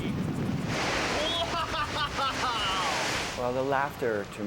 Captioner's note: laughing